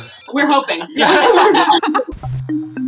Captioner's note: laughter